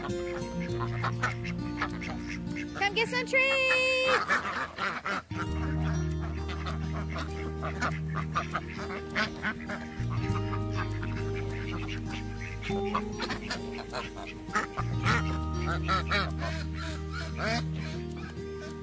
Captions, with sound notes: come get some treats! [ducks quacking excitedly ...]